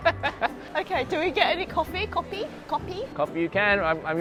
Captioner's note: laughs